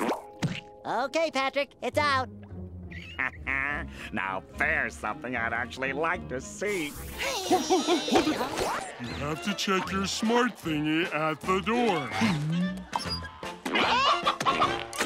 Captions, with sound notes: Okay, Patrick. It's out! [laughing] Now, there's something I'd actually like to see. You have to check your smart thingy at the door.